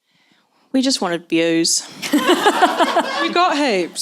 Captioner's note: laughter